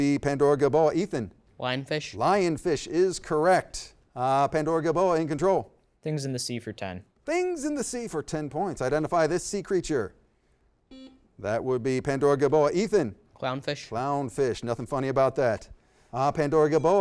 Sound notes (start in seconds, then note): 10.9 beep